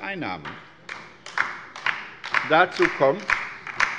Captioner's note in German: Beifall bei der LINKEN